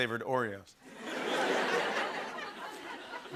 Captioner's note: laughter